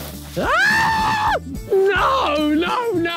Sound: Ethan screaming

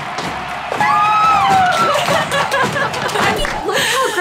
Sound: cheers

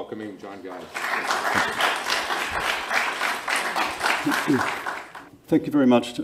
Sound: crowd applause

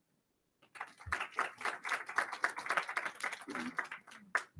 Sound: attendees applauding

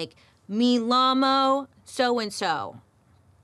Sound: speaks in foreign language

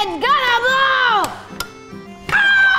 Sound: button clicks

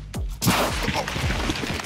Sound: ground exploding

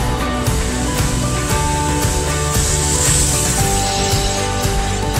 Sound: fire extinguisher hissing; upbeat music

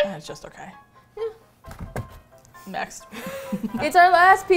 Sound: laughs; sighs; box falls; laughs; both singing

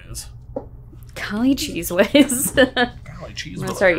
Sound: laughs

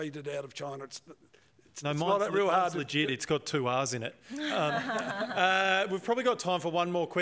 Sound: laughter

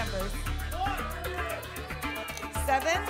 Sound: audience shouting numbers

